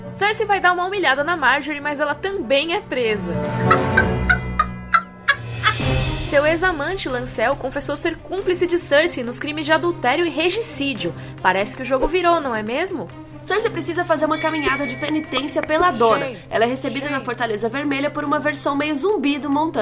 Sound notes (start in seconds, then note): 3.6 laughs